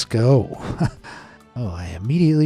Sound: narrator chuckles

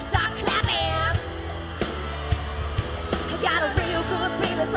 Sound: audience cheering

